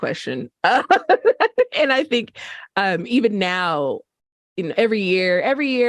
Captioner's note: laughter